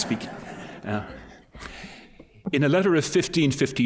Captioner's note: laughter